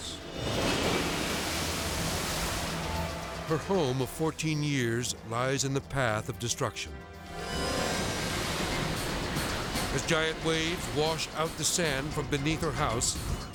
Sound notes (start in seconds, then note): 0.0 waves exploding; 0.2 edgy dramatic music; 7.2 edgy dramatic music; 7.3 waves exploding